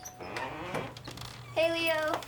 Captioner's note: door opening